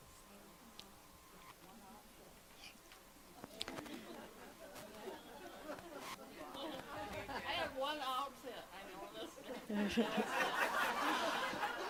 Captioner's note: laughter